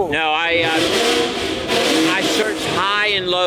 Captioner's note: car revs